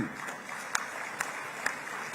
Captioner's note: applause